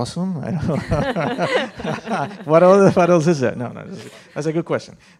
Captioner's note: laughter